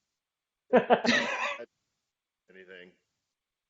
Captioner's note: laughing